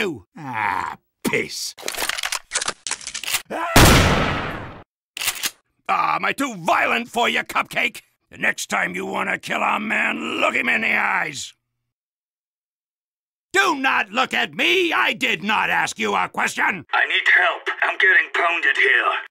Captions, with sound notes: Ahh piss... [shotgun loading sounds] [shotgun shooting sounds and Sniper screaming] Oh am I too violent for you cupcake? The next time you want to kill a man, look him in the eyes! Do not look at me, I did not ask you a question! I need help I'm getting pounded here